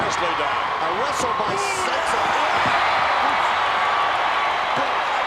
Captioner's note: applause